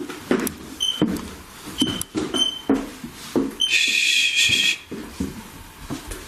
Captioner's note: metre beeping